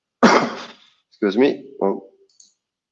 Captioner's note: coughs